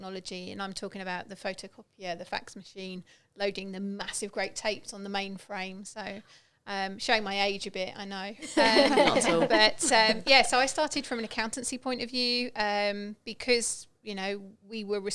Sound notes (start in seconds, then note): 8.4 laughing